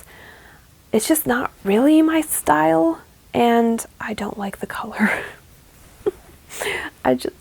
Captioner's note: sheepish laugh